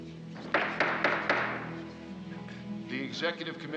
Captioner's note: indistinct chatting; gavel banging